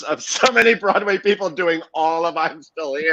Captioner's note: laughs